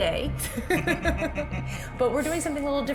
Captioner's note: both laugh